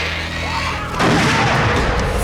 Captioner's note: screaming; gunshot